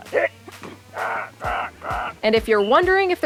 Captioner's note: coach grunting